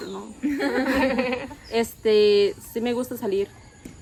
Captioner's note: laughter